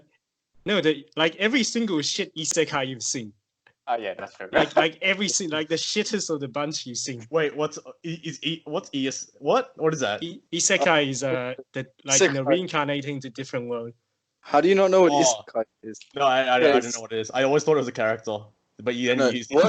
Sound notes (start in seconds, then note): 8.6 confused screaming